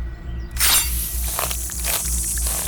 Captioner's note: flesh squelching; blade chimes